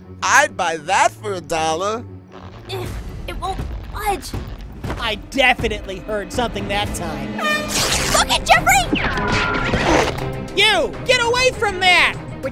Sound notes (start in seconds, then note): 2.8 grunting